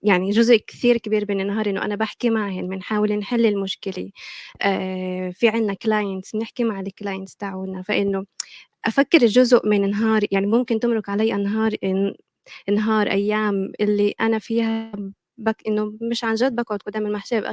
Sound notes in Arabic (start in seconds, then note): 5.2 لغة أجنبية